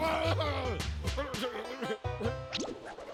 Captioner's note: groaning and slapping